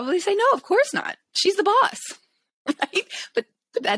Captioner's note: chuckles